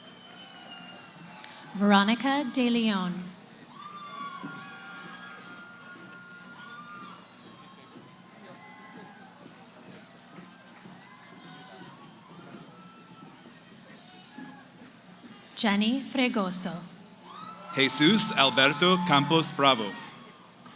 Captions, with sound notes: >> Veronica De Leon. [ Cheering ] Jenny Fregoso. >> Jesus Alberto Campos Bravo.